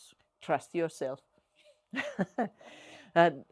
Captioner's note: chuckles